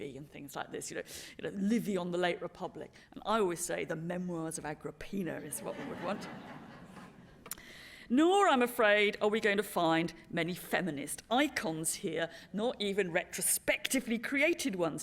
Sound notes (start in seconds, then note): 5.5 laughter